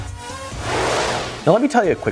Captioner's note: whooshing